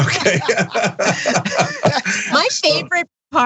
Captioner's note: laugh